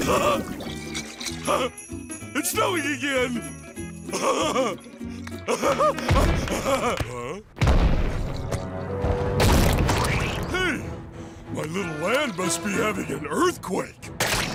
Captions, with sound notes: [laughs] It's snowing again. [laughs] Huh? Hey! My little land must be having an earthquake.